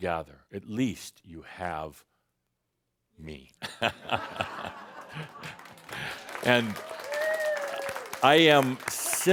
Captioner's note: chuckles and some audience applause